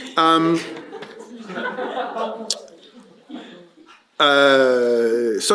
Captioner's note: laughter